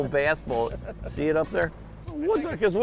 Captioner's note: laughs